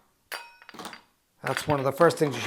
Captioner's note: ice clinks